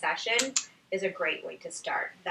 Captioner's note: click